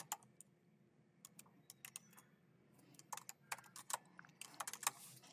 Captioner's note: keyboard clacking